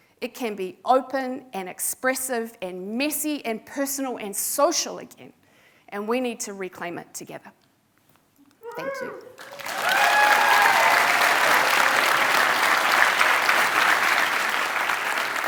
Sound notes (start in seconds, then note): 9.3 audience applauding